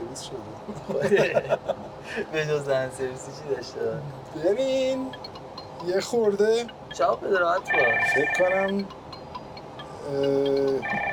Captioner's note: phone ringing